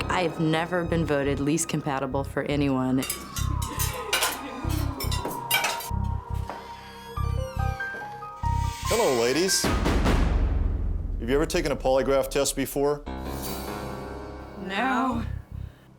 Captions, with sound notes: I have never been voted least compatible for anyone. (dishes clanging) (serious music) - Hello, ladies. (eerie music) Have you ever taken a polygraph test before? (eerie music continues) - No. - No.